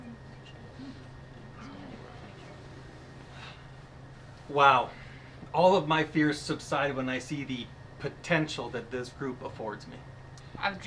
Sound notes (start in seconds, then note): 1.5 group chattering